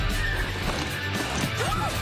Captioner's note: shot gun blast